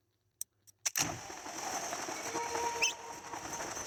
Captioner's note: sound of inventory; sounds of acceleration; screepy music